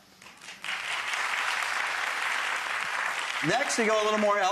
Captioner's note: audience applauds